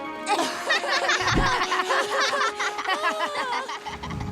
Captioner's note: laughing